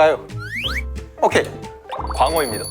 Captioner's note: ding